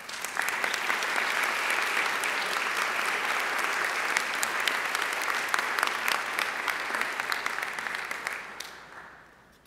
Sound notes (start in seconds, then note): 0.6 audience applauding